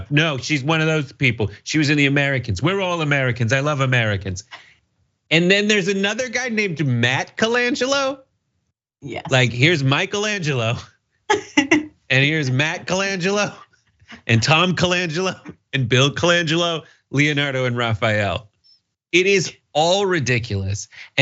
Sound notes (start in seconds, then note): 12.2 laugh